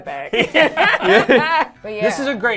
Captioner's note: everyone laughing